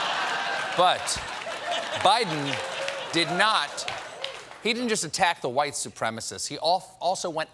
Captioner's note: laughter